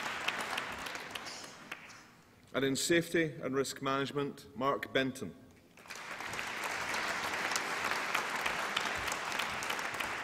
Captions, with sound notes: And in Safety and Risk Management... Mark Benton. (APPLAUSE)